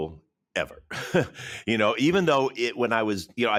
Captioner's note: chuckles